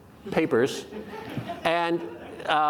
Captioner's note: audience laughing